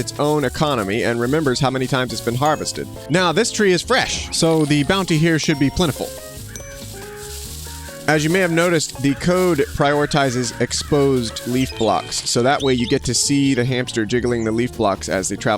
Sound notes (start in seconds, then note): 7.8 birds chirping